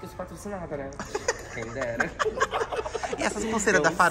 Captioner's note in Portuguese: risos